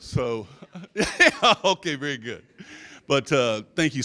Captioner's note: laughs